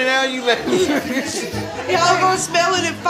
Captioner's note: guests laughing